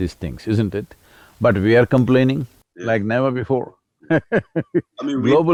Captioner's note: laughs